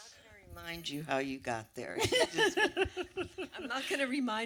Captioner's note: laughs